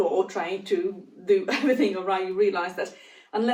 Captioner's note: giggles